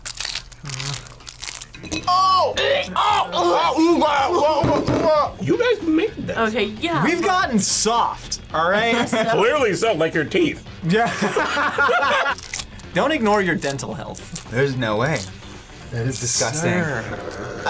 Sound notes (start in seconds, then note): 0.0 tacos crunching; 2.0 gags; 10.9 laughs